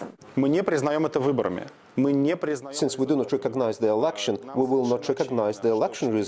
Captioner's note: through translator